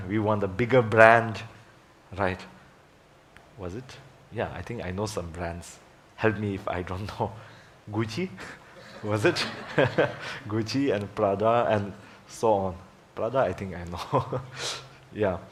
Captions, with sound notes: we want the bigger brand, right, was it? Yeah, I think I know some brands, help me if I don't know. Gucci, was it? (laughs) (audience laughing) Gucci and Prada and so on, Prada I think I know, yeah.